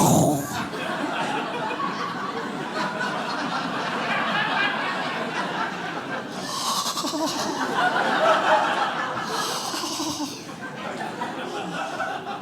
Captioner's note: audience laughing